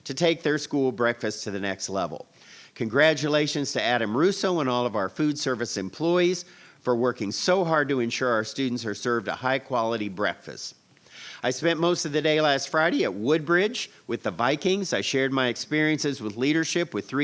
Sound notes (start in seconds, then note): none